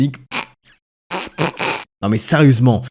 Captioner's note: tries not to laugh